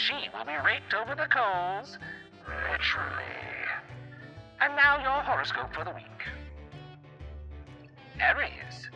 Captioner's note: demonic voice